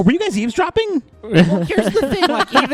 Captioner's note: laugh